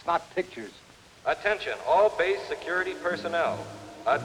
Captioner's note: man on PA